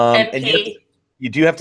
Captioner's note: laughs